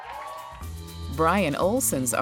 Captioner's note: applause